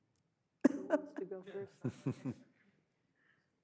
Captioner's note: laughs